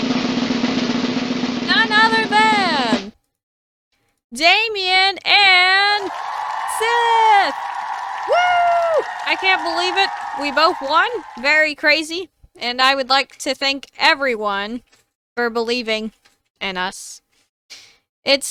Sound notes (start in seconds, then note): 5.7 cheering